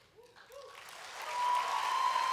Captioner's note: applause